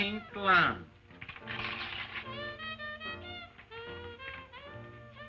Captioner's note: paper rips